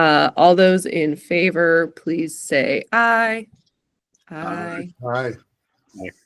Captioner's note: several "ayes"